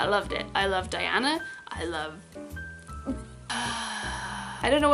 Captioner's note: sighs longingly